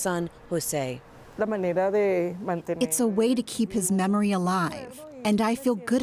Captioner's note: through translator